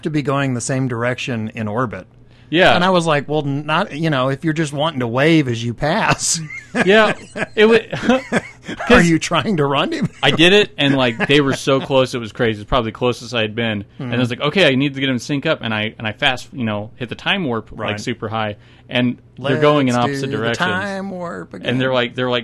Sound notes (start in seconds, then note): 9.4 laughs